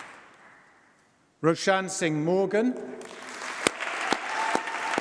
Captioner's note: applause